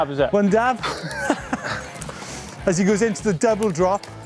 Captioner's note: laughs